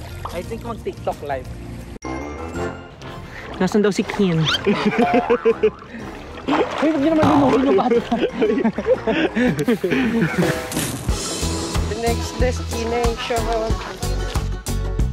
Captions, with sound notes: -I think I should do a TikTok live. -They're looking for Ken. -Hey, don't drown the kid! -(laughing) Hey!